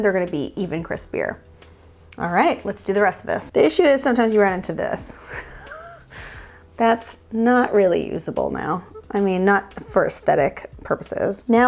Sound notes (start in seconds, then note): 5.2 laughs